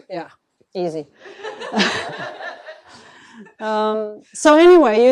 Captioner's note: laughter